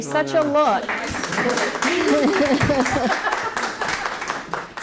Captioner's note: applause and laughter